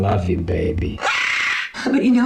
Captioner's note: bird cawing